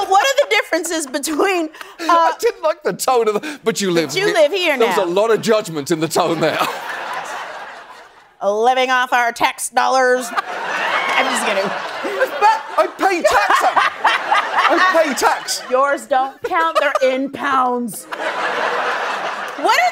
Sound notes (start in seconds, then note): 10.3 laughing; 17.8 laughter